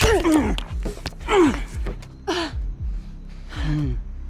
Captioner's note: Raul grunting